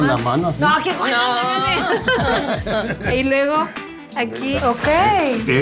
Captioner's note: laughs